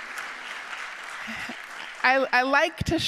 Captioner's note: audience applauding